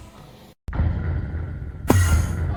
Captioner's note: Undertale Title Drop Sound